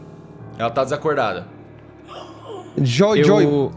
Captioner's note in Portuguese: Grunhidos